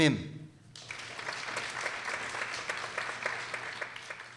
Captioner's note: people applauding